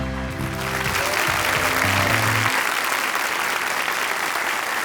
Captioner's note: audience applauding